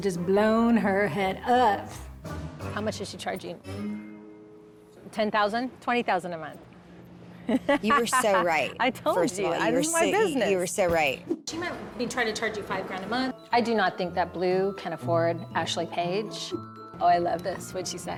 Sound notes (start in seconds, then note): 7.5 laughs